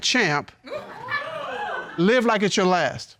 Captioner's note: audience laughing, hooting